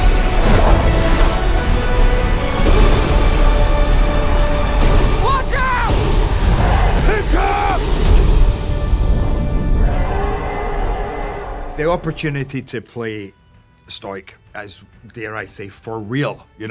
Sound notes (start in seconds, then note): 9.4 roars